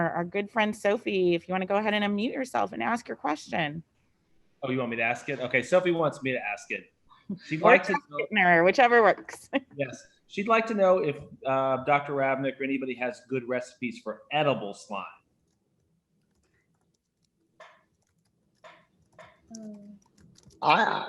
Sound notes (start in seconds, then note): 7.3 laughs